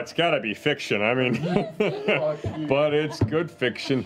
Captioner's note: laughter